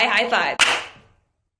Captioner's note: claps hands